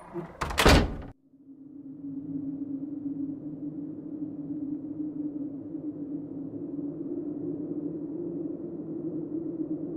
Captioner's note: opening and closing door sound effect; blowing wind sound effect